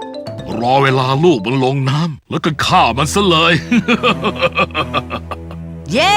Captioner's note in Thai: หัวเราะ